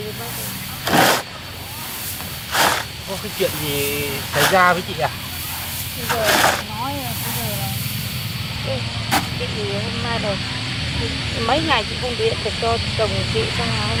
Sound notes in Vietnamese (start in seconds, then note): 2.9 Khịt mũi